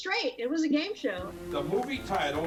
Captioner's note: attendees clap